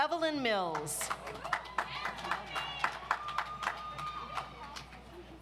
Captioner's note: audience applauds